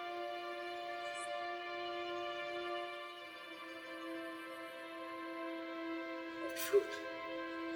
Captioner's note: whispering